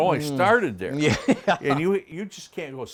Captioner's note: laughs